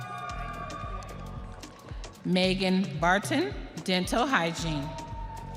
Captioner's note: audience cheering